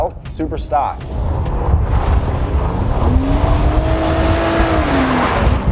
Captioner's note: car engine revving